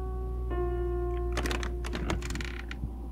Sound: bed creaking

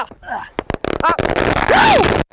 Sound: fire cracker exploding

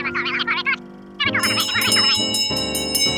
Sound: bell ringing

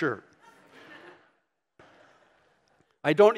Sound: laughing

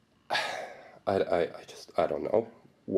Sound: sighing

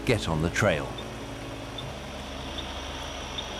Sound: equipment beeps regularly

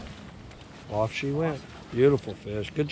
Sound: fish splashing

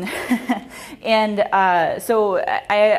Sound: laughs

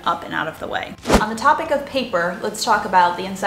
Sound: air whooshing

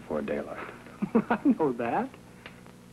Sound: laughing

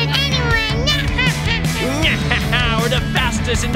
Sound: playful laughing

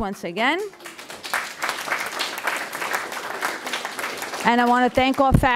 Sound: audience applauding

